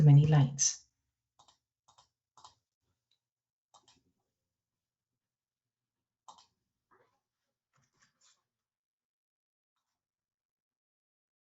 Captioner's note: silence